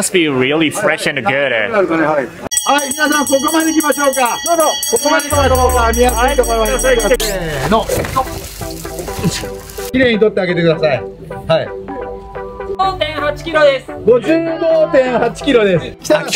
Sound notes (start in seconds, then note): 2.6 staff speak in japanese & ring bell; 7.6 staff speak in japanese